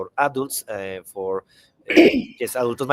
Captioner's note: speaks in Spanish